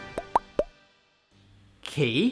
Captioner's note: popping